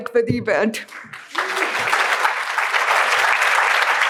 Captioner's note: applause